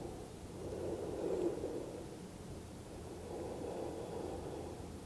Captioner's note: breathing deeply